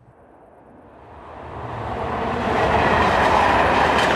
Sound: train rumbles

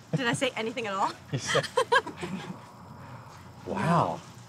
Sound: both laugh

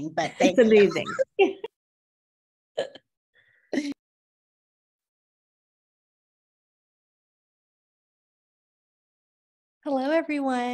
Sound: laughter

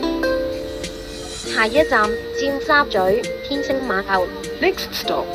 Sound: Cantonese

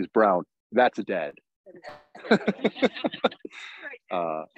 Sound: laughs

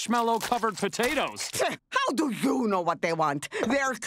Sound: scoffs

